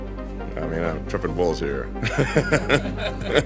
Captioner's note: laughs